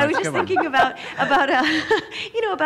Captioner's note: laughs